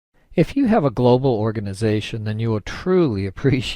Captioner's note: voiceover